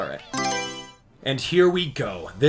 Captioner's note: Mario Selection Sound